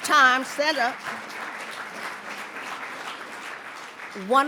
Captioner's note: audience applauds